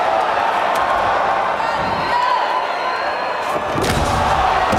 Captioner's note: crowd chanting